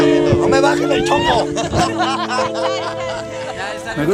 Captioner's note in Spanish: risas